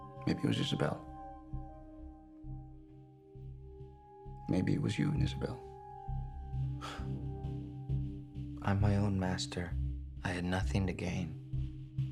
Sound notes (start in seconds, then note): 6.8 scoffs